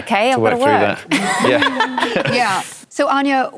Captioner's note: laughter